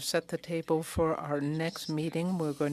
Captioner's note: speaking French